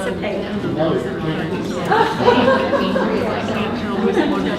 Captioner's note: participants talking at once